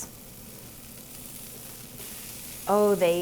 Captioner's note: low sizzling